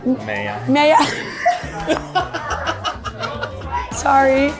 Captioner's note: laughter